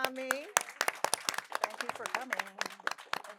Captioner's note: audience applauding